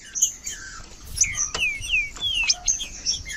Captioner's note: trinca ferro cantando